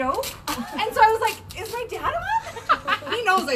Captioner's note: laughs